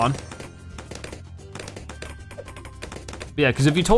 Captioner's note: weapons firing